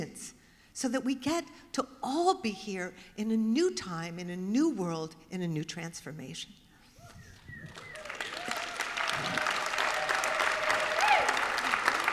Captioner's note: applause